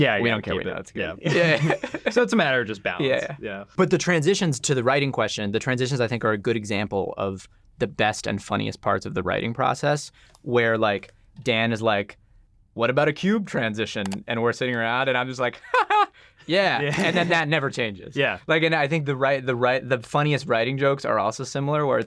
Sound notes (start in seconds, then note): 1.3 laughs